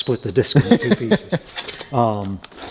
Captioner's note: laughing